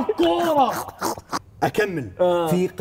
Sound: laughs

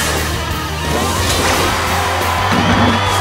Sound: cheering

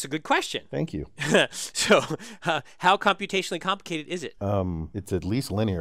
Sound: laugh

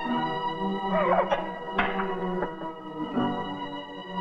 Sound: crying

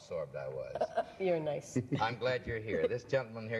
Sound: laughs

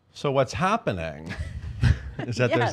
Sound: laugh

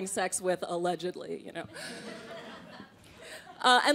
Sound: crowd laughing

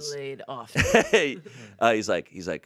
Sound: laughs

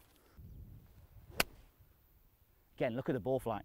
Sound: hitting ball

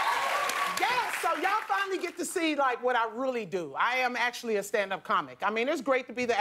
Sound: cheers and applause

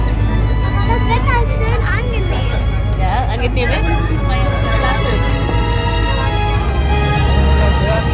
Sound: speaking German; background music

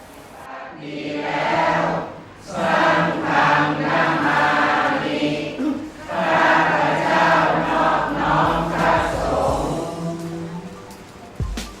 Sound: chanting

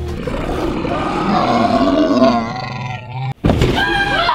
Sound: beast roaring

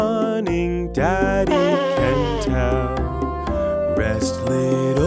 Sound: baby blowing nose

